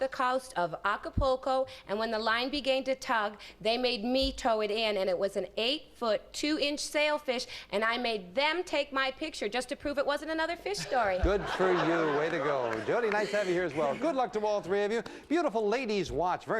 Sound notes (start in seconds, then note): 10.8 audience laughing